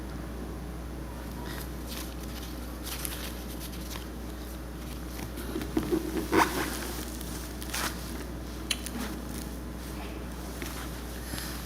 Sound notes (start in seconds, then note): 1.5 paper rustling; 5.4 boots squeaking; 8.6 lips smacking